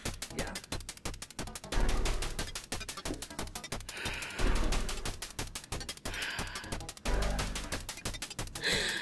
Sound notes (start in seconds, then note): 5.8 sighs